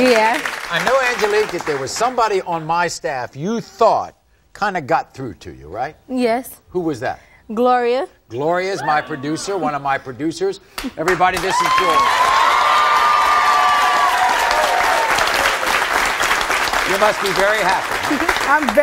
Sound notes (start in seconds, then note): 11.0 audience applauding; 11.3 cheering